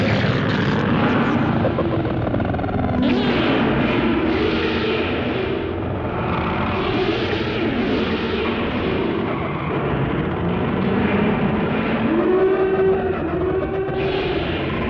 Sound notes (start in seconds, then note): 3.2 screeching; 11.9 howling